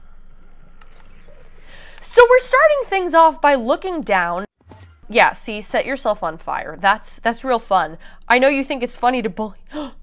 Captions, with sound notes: (deep breath) sO we're starting things off by looking down. Yeah, see, set yourself on fire. That's- that's real fun. I know you think it's funny to bully- *gasp*